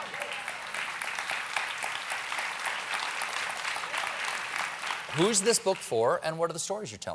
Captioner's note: applause